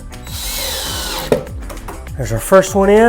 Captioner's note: drill whirs